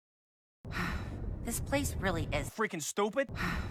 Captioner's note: sighs